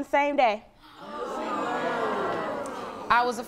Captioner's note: audience gasps